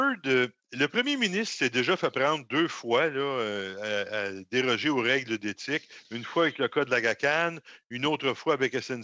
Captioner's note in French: voix de l'interprète